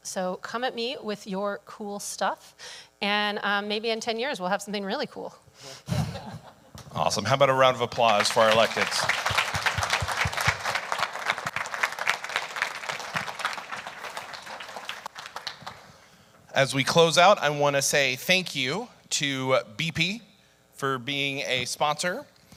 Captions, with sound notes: So come at me with your cool stuff, and maybe in 10 years we'll have something really cool. - Awesome. How about a round of applause for our electeds? (audience applauding) As we close out, I want to say thank you to BP for being a sponsor.